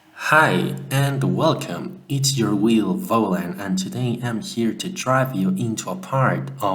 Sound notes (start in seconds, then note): 0.2 male medium pitch voice, speaking animously